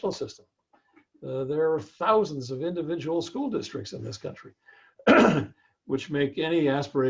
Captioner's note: cough